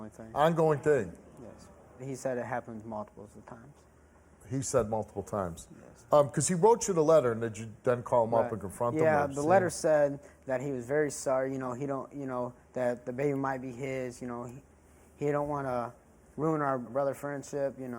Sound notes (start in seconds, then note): 11.3 stammers